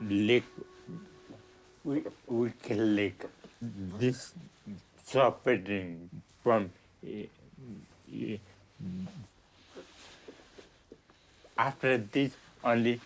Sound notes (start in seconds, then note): none